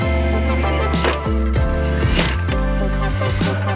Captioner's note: tool whirs